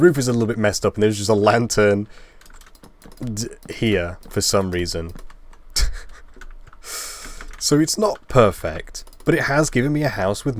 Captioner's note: laugh